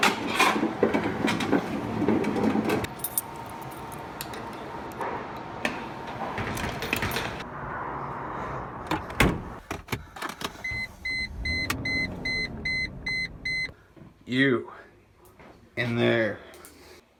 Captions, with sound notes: (keys rattling) (car beeping) You, in there.